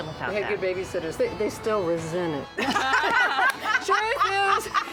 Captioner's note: laughter